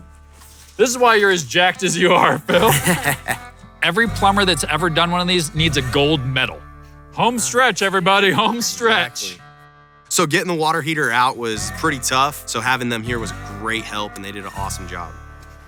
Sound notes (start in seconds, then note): 1.9 laughs